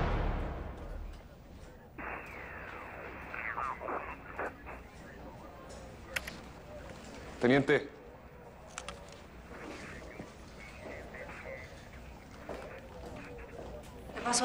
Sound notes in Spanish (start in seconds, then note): 2.7 Sonido de una trasmisión